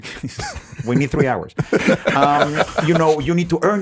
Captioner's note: laughs